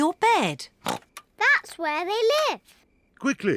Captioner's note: snorts